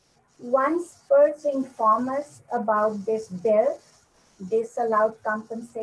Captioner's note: voice scrambles